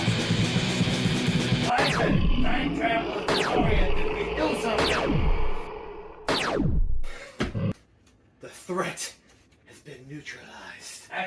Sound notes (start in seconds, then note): 0.0 loud rock music; 1.7 laser gun firing